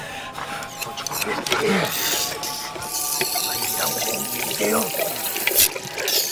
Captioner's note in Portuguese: Sons metálicos